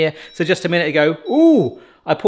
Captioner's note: Instant Pot beeping